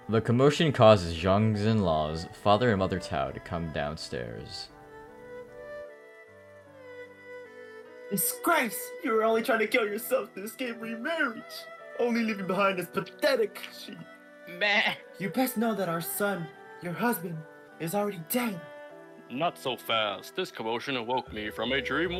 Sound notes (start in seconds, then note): 15.1 loud sheep noises